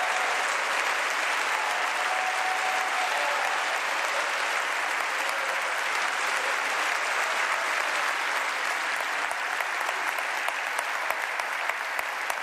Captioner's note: applause